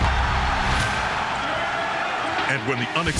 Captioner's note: crowd cheering